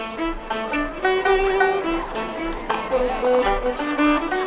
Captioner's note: people Chattering, Hoofbeats Clattering